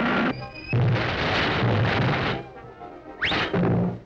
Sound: thumps

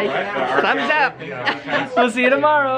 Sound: laughing

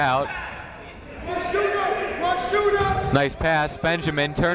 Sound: shouting

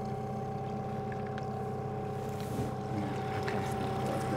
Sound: trolling motor humming

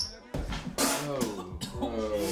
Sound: kid barfing

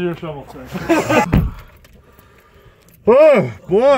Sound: all laugh

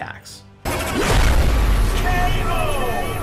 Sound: explosion sounds

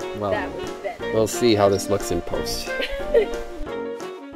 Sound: laughs

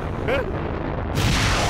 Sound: gasps

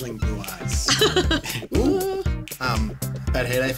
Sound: laughing

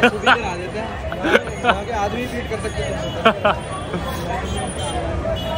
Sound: laughs

